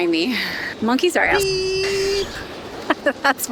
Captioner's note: beeping